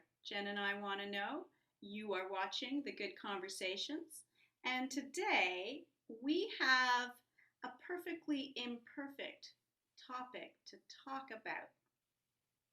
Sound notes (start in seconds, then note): none